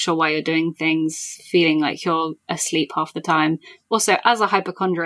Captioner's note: none